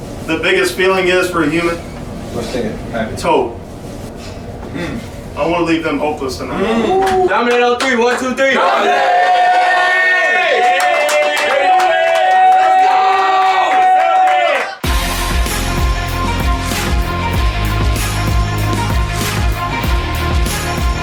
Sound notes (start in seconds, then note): 11.0 yelling and cheering; 14.8 upbeat hiphop music